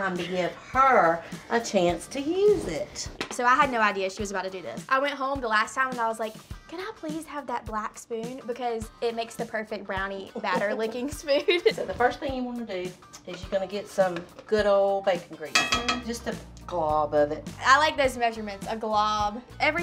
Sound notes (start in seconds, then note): 10.3 laughing; 15.5 spoon clinks